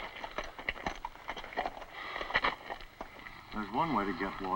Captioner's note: Voorhees breathes heavily